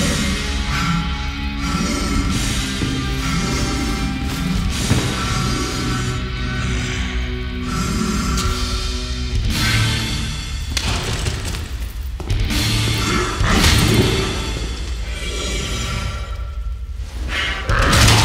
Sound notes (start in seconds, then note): 0.1 heavy breathing; 6.8 grunt; 17.1 breath